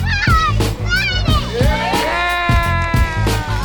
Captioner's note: cheering